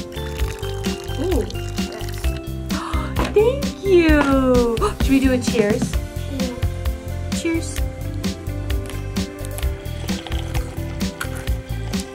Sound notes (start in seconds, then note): 0.0 tea splashing; 8.6 slurping tea; 9.5 cups clinking